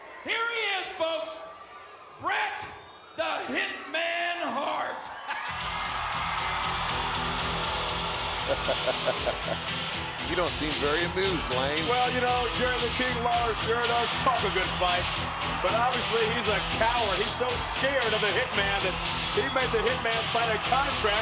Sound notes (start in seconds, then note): 5.9 crowd cheers; 5.9 entrance music plays; 8.3 laughs